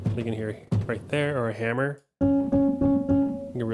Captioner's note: pedal thumping